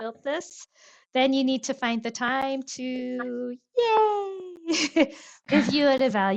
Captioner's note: laughs